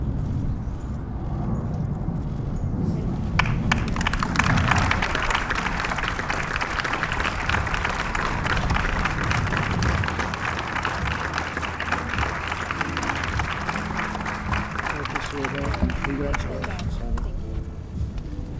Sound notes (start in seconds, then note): 3.2 applause